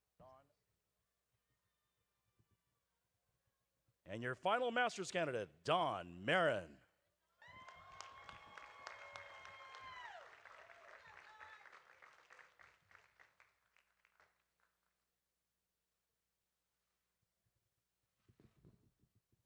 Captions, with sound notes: And your final master's candidate, Dawn Merrin. (audience applauding) (audience cheering)